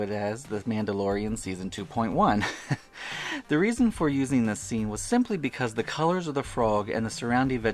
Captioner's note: ha-ha